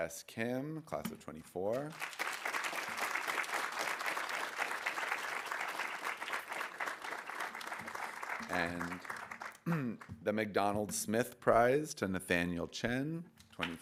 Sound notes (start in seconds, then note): 1.8 audience applauding